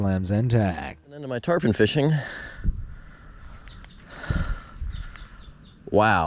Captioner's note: breathing heavily